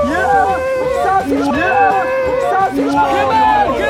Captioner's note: gasping